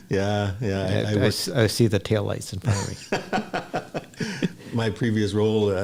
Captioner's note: laughs